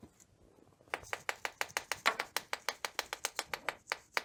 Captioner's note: table taps